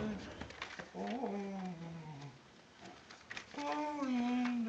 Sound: humming

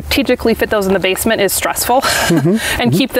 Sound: laughs

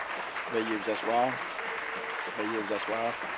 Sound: applause

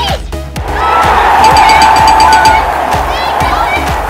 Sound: cheering; ding, ding, ding, ding!

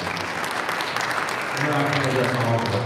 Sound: audience applauding

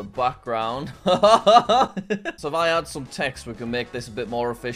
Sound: chuckles

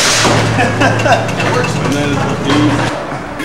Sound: laughs

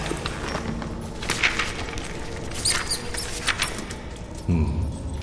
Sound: shuffling of papers; sounds of rats; male inquisitive grunt

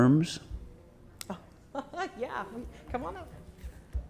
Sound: chuckles

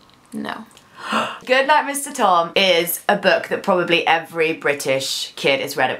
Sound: gasp

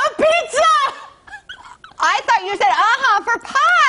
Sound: laughter

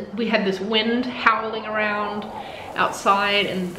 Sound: wind howls effect

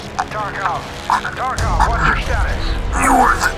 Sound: over Comms

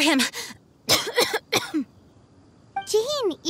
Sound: cough

